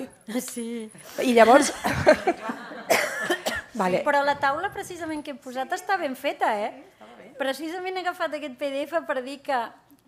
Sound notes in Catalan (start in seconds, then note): 1.4 riures